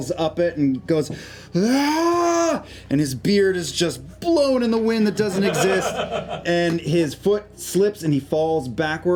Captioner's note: yells